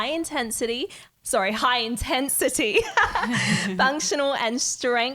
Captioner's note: all giggling